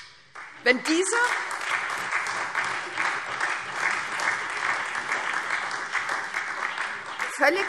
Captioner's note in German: Beifall